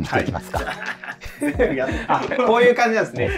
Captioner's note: laughing